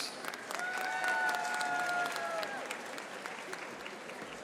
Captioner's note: audience applauding